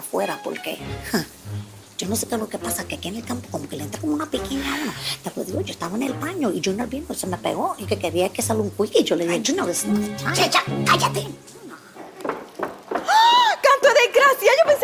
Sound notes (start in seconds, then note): 11.9 steps; 13.0 enthusiastic sigh